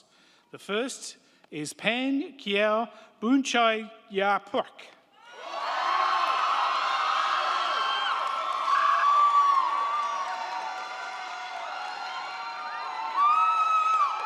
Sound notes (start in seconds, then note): 5.2 crowd cheering; 5.4 crowd clapping